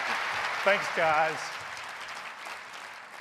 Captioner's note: applause